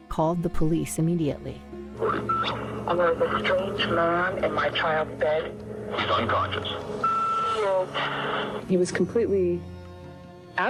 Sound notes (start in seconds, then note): 2.0 line beeps; 6.9 phone beeps